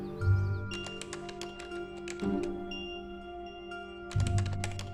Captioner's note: keypad beeping